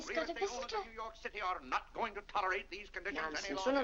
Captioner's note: Mr. Day rambling to himself